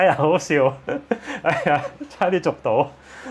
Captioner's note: laughs